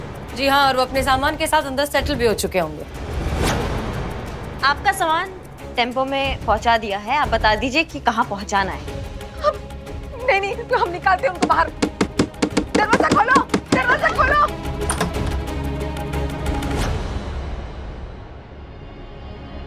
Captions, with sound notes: And they must have moved in by now with all their belongings. All your luggage is loaded into the vehicle. Please tell us where to unload them. No, I'm going to throw them out. [knocking on door] - Open the door. - Open the door! [door opens]